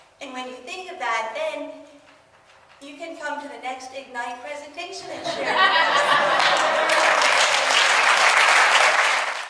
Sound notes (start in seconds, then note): 5.2 audience laughs and applauds